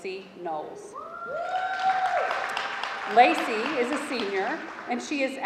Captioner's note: audience clamoring; audience applauding